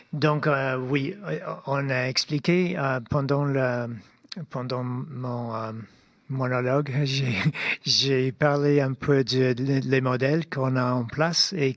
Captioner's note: speaking French